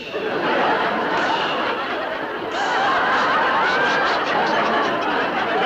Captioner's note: crowd laughing hysterically